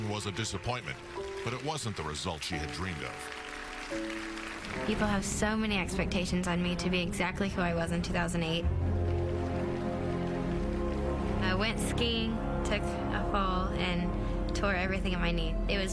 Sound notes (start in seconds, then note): 3.7 crowd applauds; 8.9 melancholy music